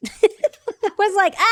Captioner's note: laughs